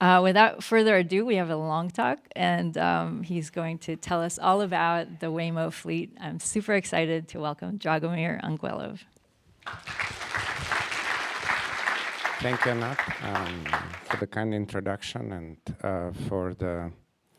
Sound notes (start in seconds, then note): 9.6 applause